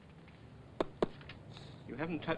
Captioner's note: tapping